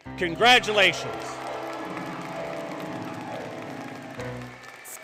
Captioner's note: applause, Music